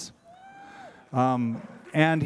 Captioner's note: cheering